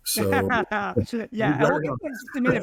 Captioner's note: both laughing